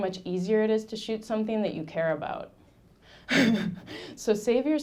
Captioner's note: laughing